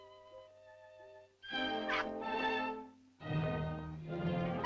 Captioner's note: melancholy music; Loana yelps; suspenseful music